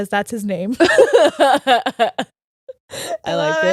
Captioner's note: laughing